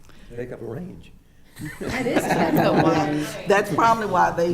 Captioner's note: attendees laughing